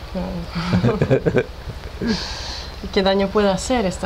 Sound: laughts

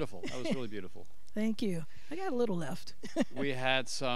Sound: chuckles

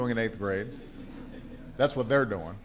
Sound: laughter

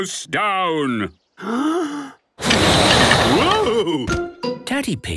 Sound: inhaling deeply; blowing

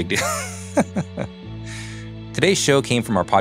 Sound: laughing

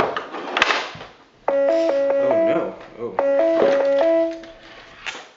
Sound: Incoming Google Hangouts call ringtone

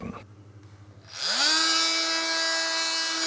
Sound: loud whirring

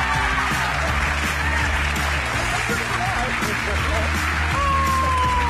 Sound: audience cheers

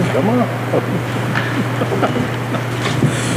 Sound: laugh

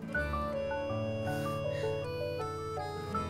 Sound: chuckles

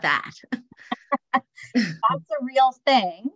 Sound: both laugh

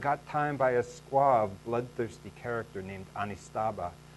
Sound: none

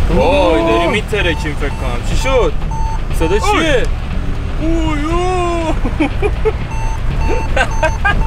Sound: beeping sound

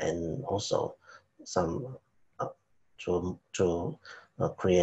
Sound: speaking faintly

